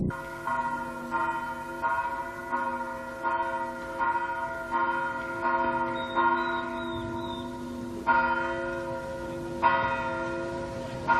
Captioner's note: bells Ringing